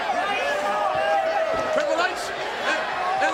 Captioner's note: all chattering